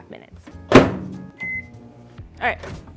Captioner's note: microwave beeping